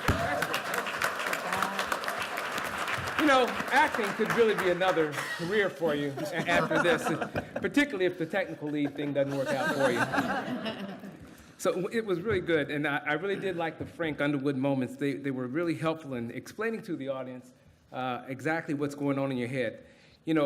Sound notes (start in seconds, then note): 0.0 applause; 10.9 laughter